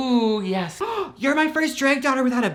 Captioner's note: gasps